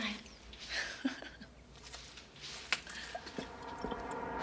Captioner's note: chuckling